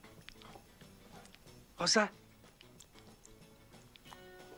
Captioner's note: Sin diálogo audible